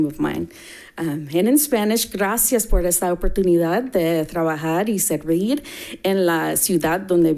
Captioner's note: speaking in Spanish